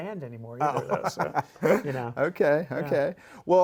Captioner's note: laughs